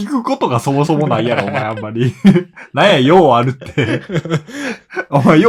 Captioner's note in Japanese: 笑い